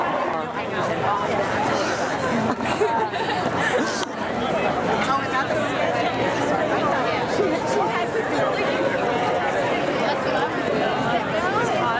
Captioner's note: background chatter